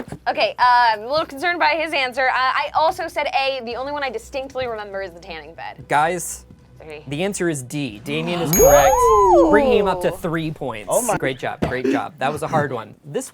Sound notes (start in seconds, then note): 8.5 cheering; 8.5 bell dings